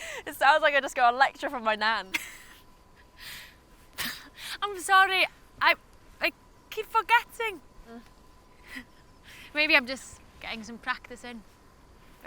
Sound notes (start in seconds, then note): 2.1 chuckling; 5.5 stutters